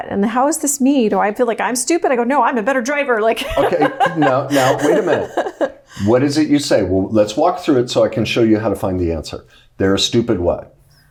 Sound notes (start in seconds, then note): 3.4 laughs